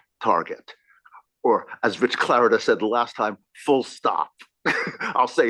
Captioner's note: laugh